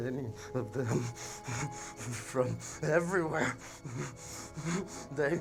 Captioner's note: shuddering